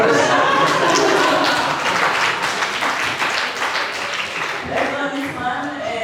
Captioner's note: laughter and applause